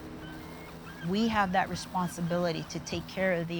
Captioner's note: birds calling